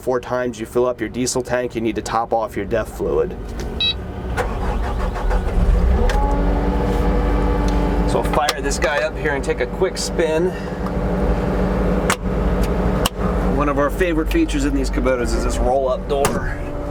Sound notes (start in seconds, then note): 4.3 engine start